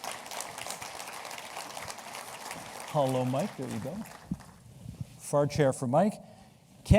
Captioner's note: applause